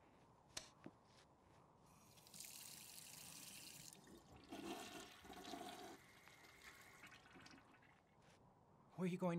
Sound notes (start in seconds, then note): 4.4 toilet flushes